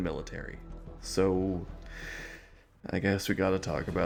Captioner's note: exasperated inhale